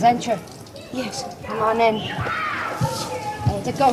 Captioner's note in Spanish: Chillidos de niños